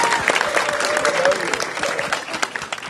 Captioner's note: applause